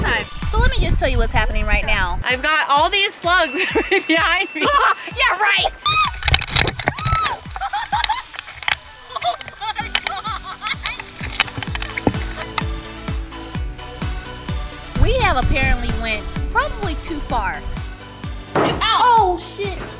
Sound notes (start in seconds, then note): 3.6 laughing; 6.9 screaming; 6.9 laughing; 12.8 upbeat pop music; 18.5 thudding